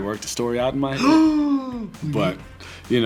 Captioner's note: gasps